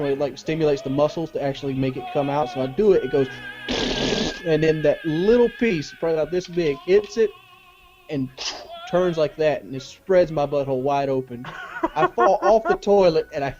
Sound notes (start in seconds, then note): 3.6 mouth farting; 11.4 man laughs